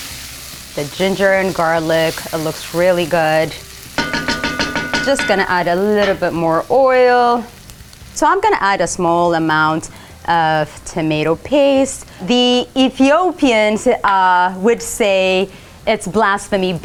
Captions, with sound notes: The ginger and garlic, it looks really good. [sizzling] [spoon clanking] Just gonna add a little bit more oil. So I'm gonna add a small amount of tomato paste. The Ethiopians would say it's blasphemy